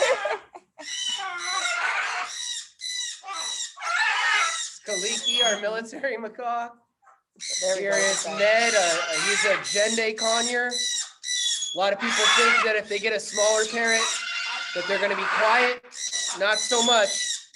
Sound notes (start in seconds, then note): 0.0 laughing; 0.8 parrots chirping